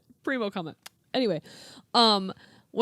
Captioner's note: kissing